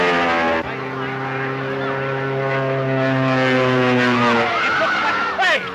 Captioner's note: airplane buzzing; crowd screams